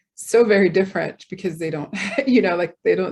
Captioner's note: chuckles